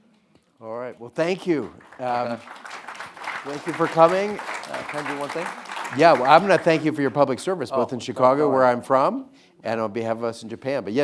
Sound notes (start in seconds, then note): 1.6 audience applauding